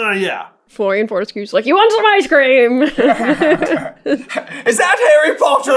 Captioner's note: laughter